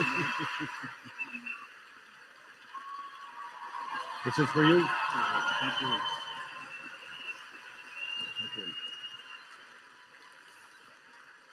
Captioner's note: applause